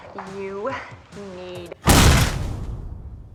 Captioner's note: explosion